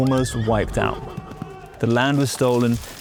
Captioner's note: hooves clopping; horse neighs; tree cracking